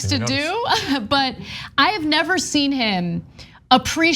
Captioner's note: laugh